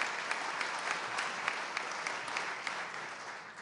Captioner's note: applause